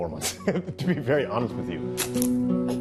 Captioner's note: laughs